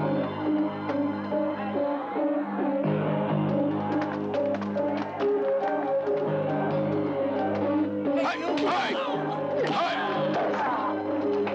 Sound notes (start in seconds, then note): 7.9 men shouting